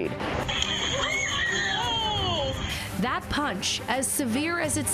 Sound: screaming

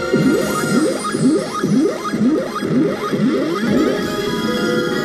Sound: exciting swing music; game trilling; exciting music

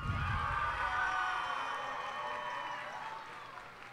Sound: cheers and applause

